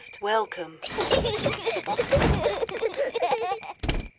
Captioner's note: children laugh